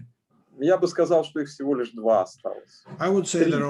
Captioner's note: speaking Russian language